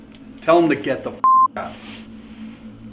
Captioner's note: beep